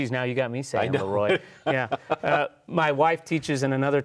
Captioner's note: laughs